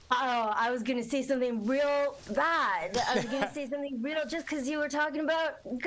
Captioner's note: laughter